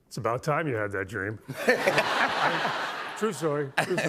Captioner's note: laughter